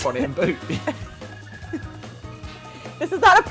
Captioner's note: both laugh; laughs